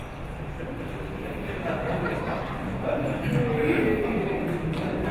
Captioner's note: audience chuckling